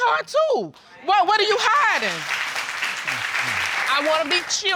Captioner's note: audience applauding